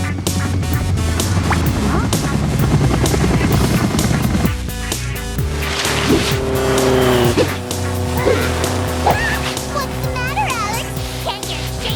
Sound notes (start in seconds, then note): 1.0 blades spinning